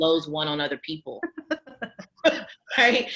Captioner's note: laughs